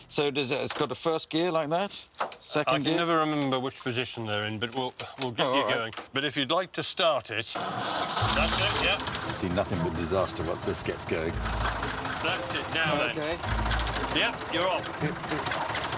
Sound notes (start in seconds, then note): 7.3 engine starts